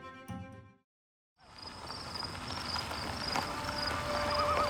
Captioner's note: tires on gravel